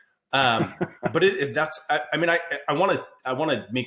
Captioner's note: laughs